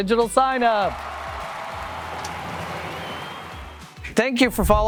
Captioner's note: cheering